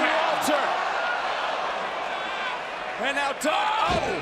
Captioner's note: crowd cheering